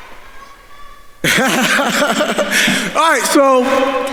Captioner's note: laughs